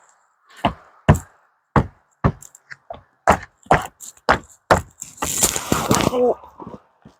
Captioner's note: hammering